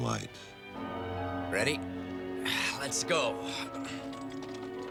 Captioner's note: strains